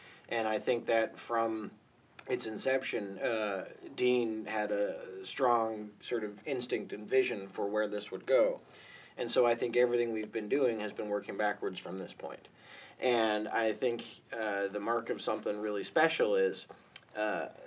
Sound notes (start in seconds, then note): none